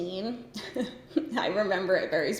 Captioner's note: giggles